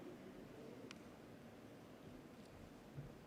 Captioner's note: none